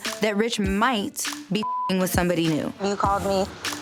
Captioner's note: beep